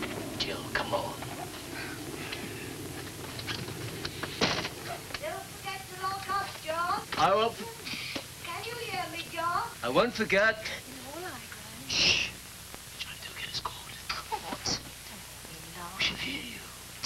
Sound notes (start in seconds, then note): 0.3 john, quietly; 5.1 gran, calling; 11.8 john, whispering